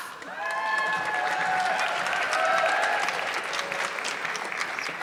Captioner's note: audience clapping